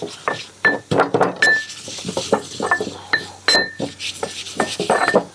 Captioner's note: mortar and pestle grinding